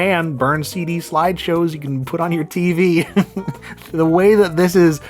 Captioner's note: laughs